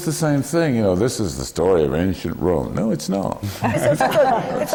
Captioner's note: laughter from the panel